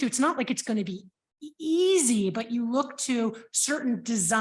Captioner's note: none